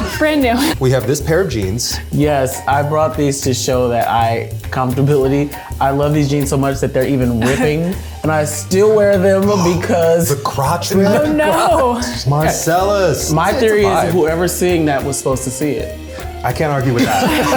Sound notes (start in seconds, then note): 0.0 laughs; 9.9 gasps